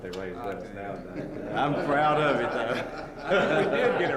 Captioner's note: laughter